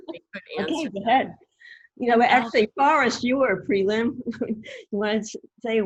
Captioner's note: laughing; murmurs